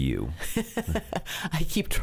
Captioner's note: laughs